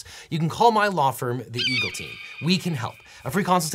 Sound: eagle squawks

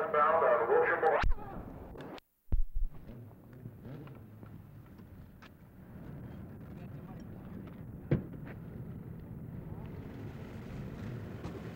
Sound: street noise

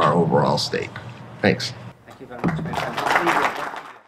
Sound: audience applause

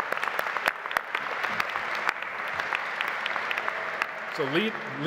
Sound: audience applauding

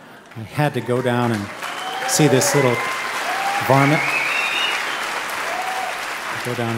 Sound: audience cheering

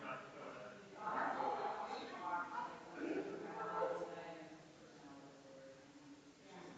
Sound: people chattering distantly continues

